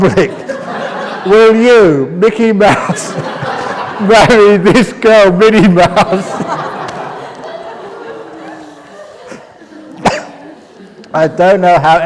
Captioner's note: laughs; laughter